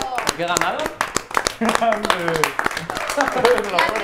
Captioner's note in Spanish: aplauden